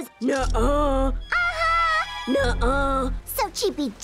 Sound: deep voice; high-pitched voice; deep voice

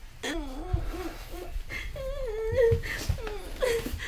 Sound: continues to cry

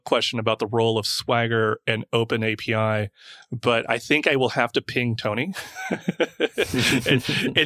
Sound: laughs

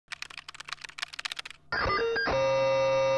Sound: keys clacking; dial tone droning

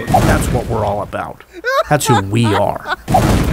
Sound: laughs

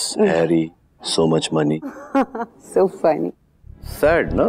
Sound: laughs

